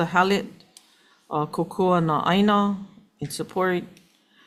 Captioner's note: speaking in foreign language